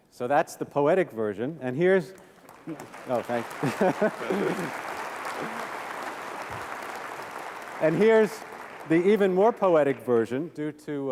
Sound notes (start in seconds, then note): 2.6 applause; 3.6 laughs